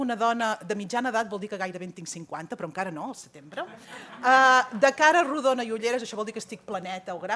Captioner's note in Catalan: riures